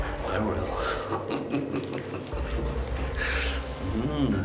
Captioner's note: laughs